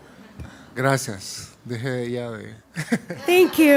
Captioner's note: speaking spanish